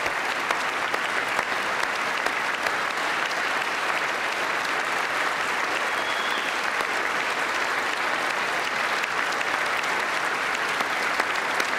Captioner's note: applause